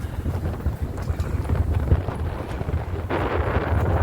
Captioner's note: wind blowing